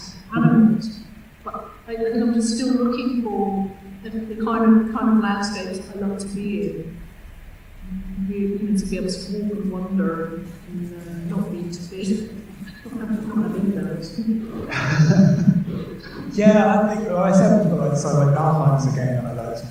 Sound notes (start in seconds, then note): 14.5 laughter